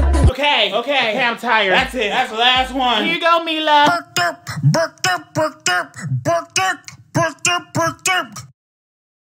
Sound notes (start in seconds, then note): 0.0 upbeat music; 4.5 vocalizing